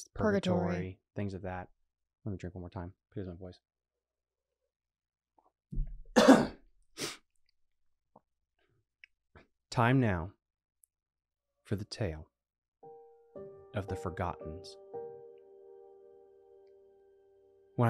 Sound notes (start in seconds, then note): 6.1 coughing; 14.7 spooky piano music